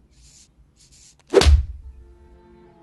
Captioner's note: paw thump